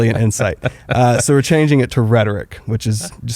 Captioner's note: laughs